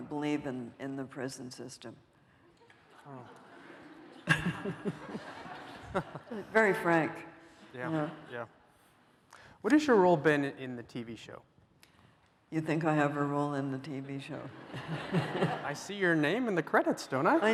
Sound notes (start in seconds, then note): 2.6 chuckles